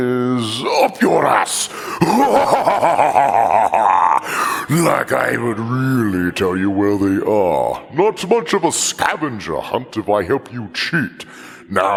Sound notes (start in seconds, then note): 1.5 empyrific laugh